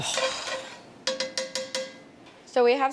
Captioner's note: inhales; tapping